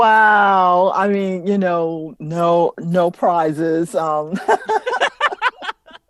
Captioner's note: laughter